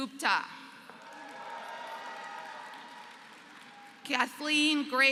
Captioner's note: applause